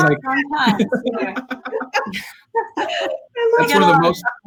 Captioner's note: laughing